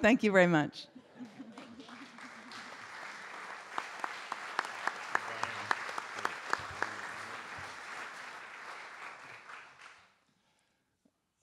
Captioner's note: audience Laughter; audience Applause